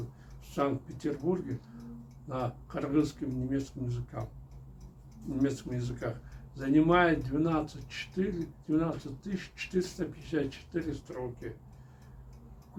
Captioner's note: in Kyrgyz and German